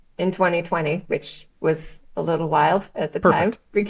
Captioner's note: laughs